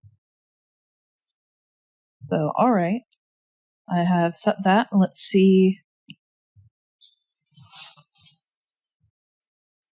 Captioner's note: drawing noises